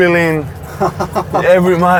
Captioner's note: laughs